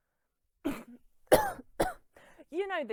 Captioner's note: coughing